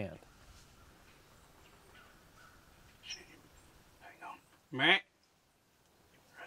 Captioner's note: whispering